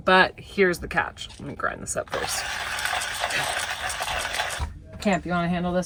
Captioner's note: grinding